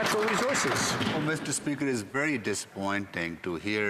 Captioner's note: some Applause